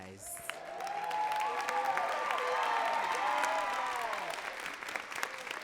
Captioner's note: audience cheering and clapping